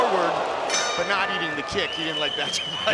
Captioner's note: bell dings